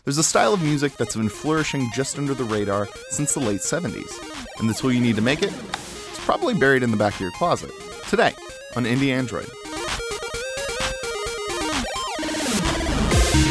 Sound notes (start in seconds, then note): 5.6 click; 10.1 upbeat chiptune music